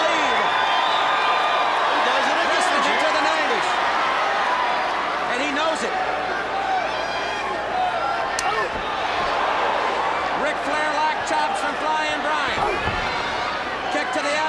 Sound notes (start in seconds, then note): 1.8 crowd chatter